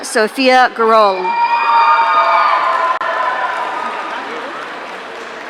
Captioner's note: audience cheering